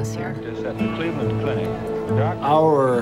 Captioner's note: ambient sound of news anchors